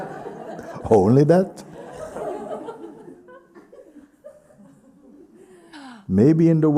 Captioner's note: laughter; laughter